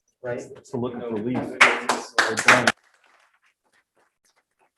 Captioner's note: crowd applauding